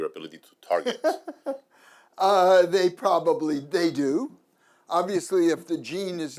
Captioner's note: laughs